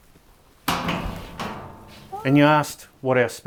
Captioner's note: banging